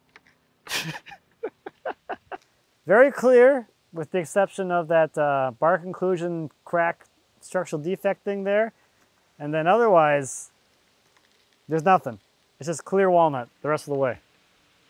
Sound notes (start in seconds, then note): 0.6 laughing